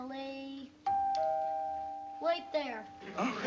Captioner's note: doorbell ringing